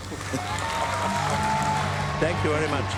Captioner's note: applause